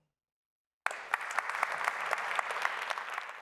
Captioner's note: applause